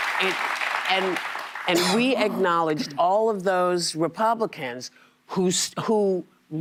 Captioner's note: applause